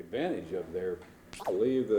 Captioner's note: camera noise